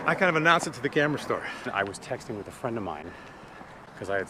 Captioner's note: none